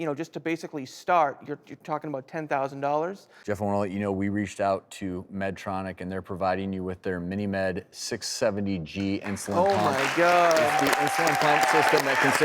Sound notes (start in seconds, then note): 9.2 applause